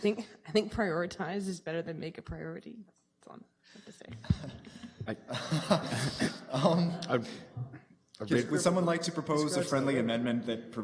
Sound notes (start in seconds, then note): 5.8 laughter